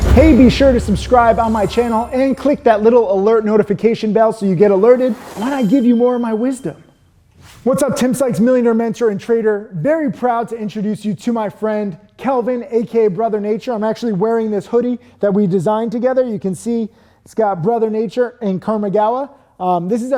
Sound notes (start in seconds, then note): 1.8 graphic chiming; 4.6 graphic chiming; 7.4 animation whooshes